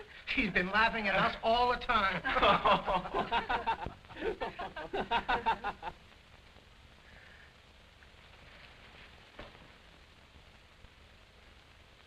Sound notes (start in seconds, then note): 2.2 laughter